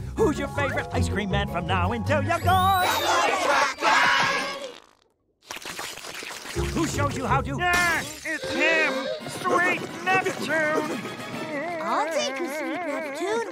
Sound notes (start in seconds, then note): 4.6 slurping